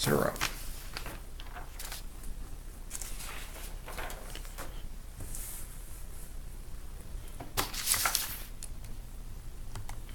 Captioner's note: paper Sounds